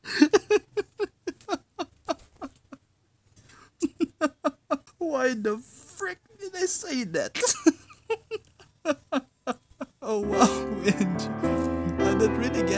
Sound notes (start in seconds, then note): 0.0 trying to stop laughing but it fails; 0.0 moar intense laughing.. goodness; 7.4 morrr and morr laughter